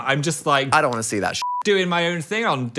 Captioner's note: beep